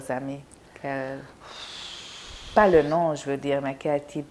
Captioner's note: sighing